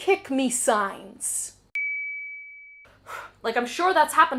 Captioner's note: ding